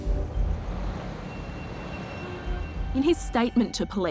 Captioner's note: traffic whooshing